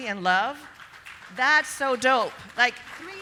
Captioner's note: audience applauding